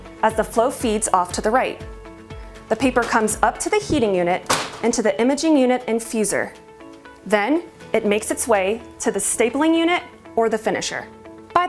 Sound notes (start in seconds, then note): 4.4 machine banging